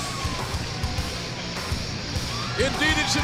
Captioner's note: cheers and applause